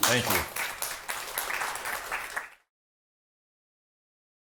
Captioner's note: applause